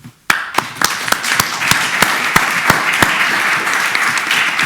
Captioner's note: audience applauding